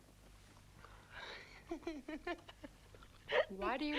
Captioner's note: Tracima laughs